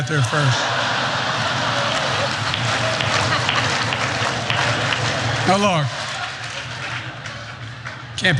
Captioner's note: laugh; applause